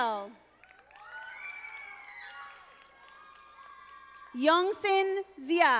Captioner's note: audience applauding